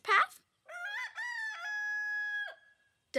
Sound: rooster call

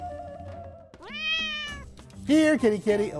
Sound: cat meows

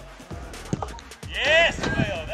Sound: Ralph Hasenhüttl, shouting

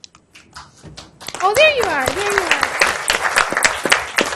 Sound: audience applauds

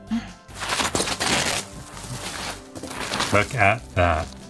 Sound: bubble wrap tearing

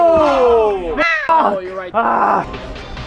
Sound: crow caws

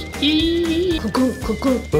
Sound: squealing

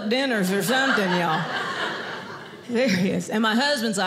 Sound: audience laughing

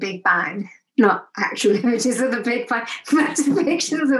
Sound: laughs

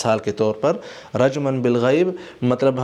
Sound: Arabic

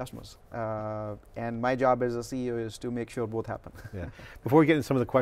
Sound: chuckles

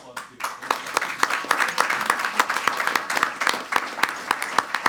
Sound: clapping loudly

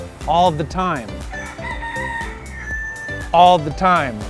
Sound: rooster crowing

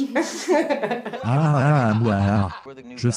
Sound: laughs

